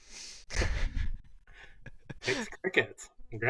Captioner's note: laughter